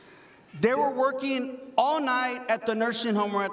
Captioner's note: none